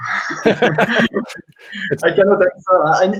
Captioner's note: laughter